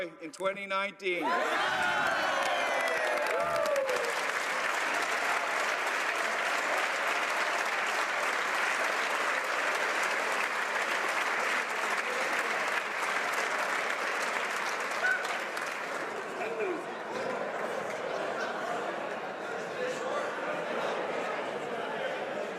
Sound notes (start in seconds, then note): 6.6 applause